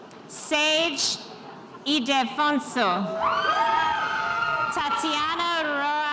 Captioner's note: spectators cheering